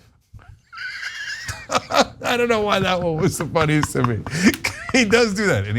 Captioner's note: laugh